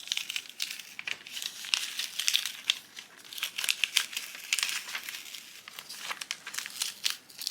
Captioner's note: paper crunches